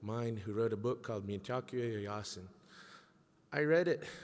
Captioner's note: speaking in a foreign language